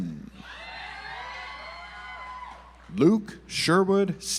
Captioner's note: audience applauds